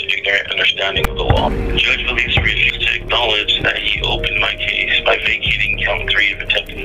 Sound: gavel echoes on sound block

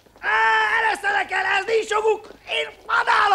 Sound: groaning and grunting

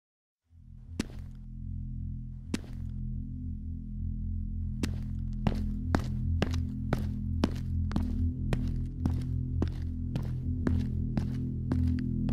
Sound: shoes squeaking

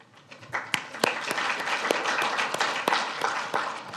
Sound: audience claps

